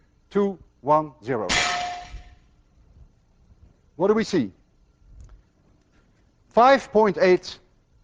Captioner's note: bullet whacks metal